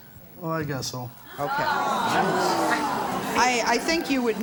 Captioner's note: audience exclaims